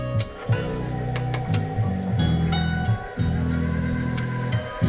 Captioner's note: mixer whirring